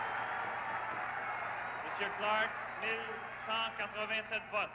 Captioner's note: cheers and applause